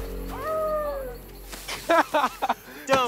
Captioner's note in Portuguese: Som de uivo